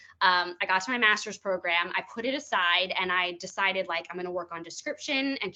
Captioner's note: none